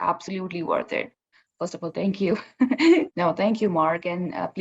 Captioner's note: laughs